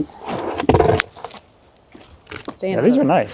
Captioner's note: board scraping